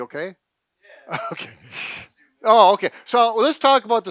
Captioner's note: laughs